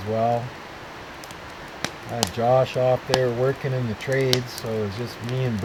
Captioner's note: fire crackling